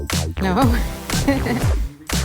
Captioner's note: laughs